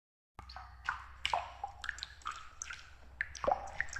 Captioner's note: dripping water